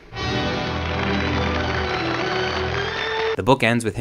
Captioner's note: sweeping music; audience applauds